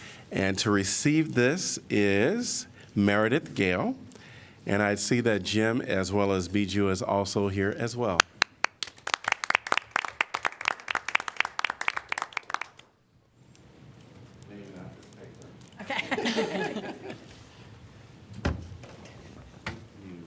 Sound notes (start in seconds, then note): 8.2 applause; 10.9 laughter